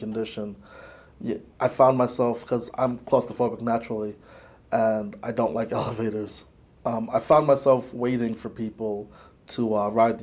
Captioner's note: laughs